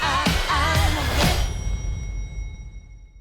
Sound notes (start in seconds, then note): 0.0 music stops; 1.2 ding